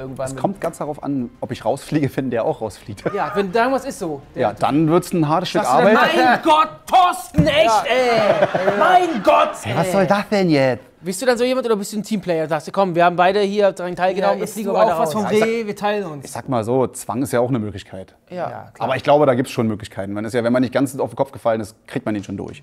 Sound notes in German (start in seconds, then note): 8.0 Gelächter